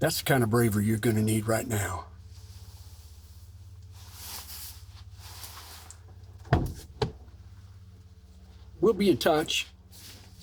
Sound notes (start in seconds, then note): 6.4 door opens